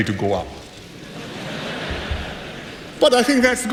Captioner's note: laughter